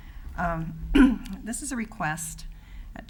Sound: clears throat

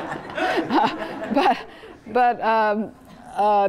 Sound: laughter; laugh

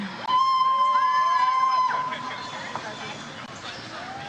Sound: audience applauds

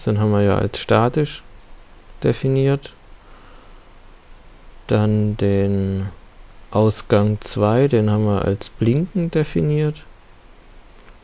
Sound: static

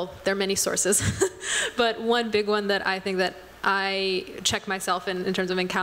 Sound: laughter

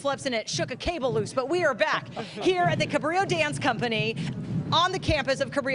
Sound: laughter

